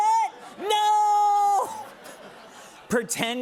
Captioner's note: laughter